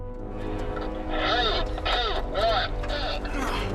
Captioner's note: crew member on radio